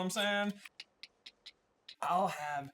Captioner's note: click click click click click click click click; tongue click